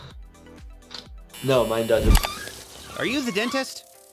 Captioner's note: buzzer rings